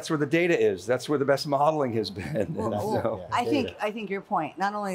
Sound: chuckles

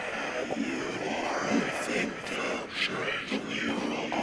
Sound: suggestive demonic hissing

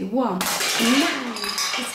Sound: clattering noise

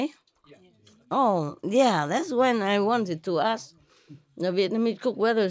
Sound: Vietnamese

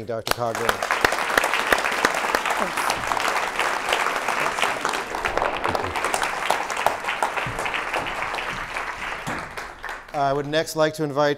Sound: applause

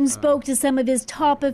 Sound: speaking Foreign Language

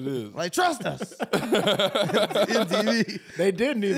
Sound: laughing

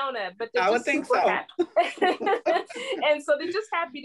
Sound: laughter

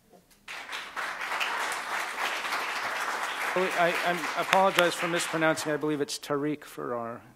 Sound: applause

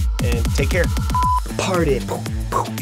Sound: beeping; punching sounds

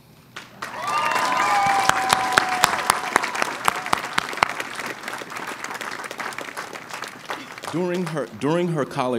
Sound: cheering and applause

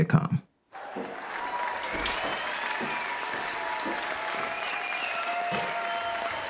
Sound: audience Applause

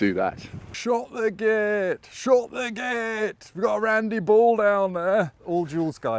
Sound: with an accent

